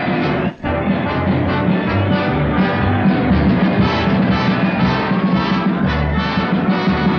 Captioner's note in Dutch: applaus